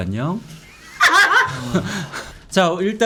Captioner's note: laughing